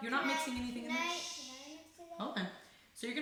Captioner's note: shushes